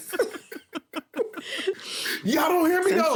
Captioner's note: everyone laughing